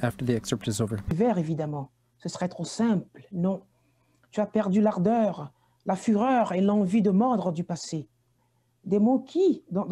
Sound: reading in French

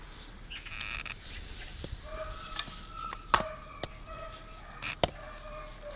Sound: dog barks

